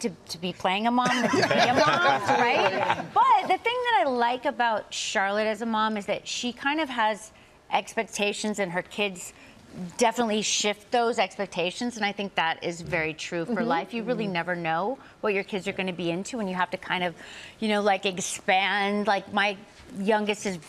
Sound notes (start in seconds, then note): 1.0 laughter